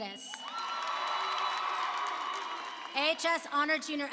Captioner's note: applause and cheering